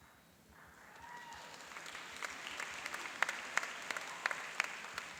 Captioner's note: cheering and applauding